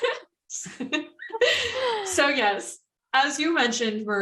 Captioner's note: continuing laughter